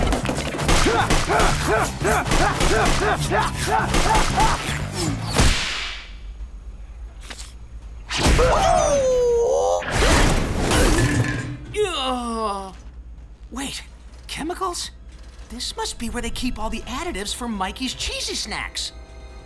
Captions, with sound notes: [grunting] [grunting] [groaning] Wait. Chemicals? This must be where they keep all the additives for Mikey's cheesy snacks.